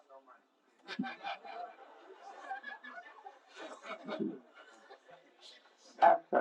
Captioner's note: смех